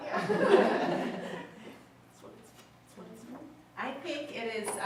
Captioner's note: audience laughs